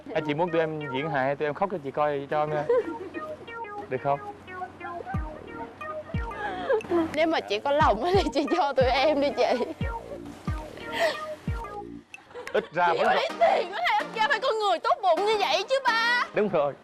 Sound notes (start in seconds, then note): 10.6 laughing